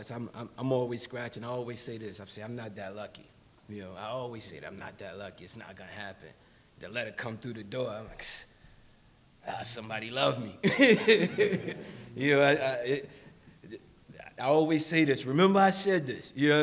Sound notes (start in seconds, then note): 8.7 scoffs; 10.6 laughs